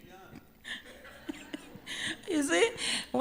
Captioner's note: laughter